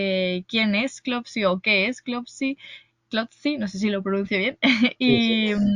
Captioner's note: laughs